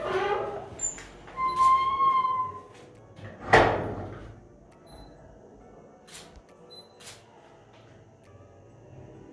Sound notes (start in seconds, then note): 0.0 door squeaking; 3.4 door bangs